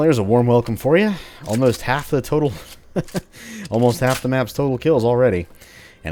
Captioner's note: laughs